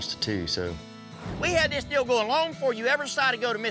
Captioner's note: angrily shouting